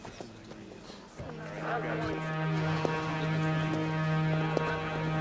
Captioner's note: police radio chatter